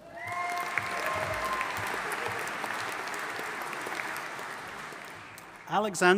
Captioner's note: audience applauding and cheering